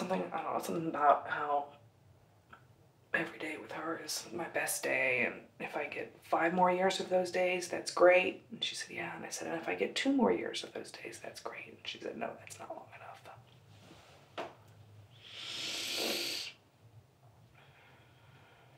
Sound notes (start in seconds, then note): 15.1 sniffs